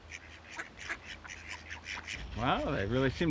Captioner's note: ducks quacking